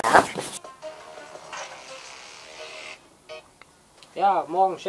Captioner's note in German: handyklingeln